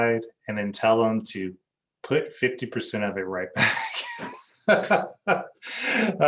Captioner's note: laughs